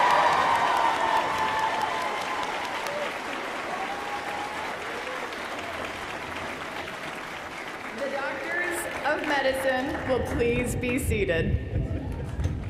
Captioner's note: cheers & applause